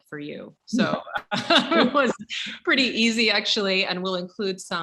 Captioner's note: laughs